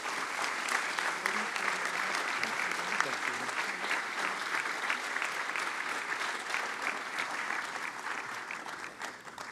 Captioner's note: applause